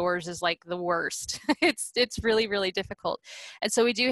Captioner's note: laughter